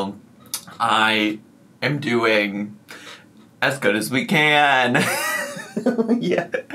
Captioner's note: laughs